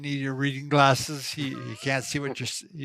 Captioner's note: chuckles